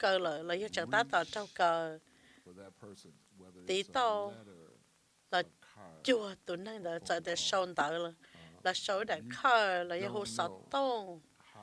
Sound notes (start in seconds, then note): none